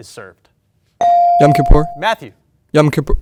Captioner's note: bell ring